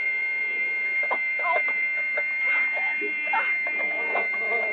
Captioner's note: car horn honking; bees buzzing